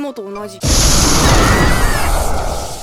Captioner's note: panicked cries